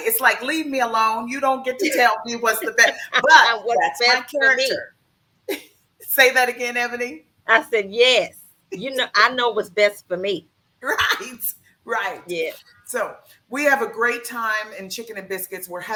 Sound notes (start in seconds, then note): 4.5 laughs